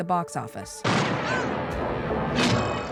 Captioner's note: gunshot